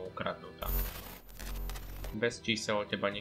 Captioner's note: random distortion, not really sure why tbf lol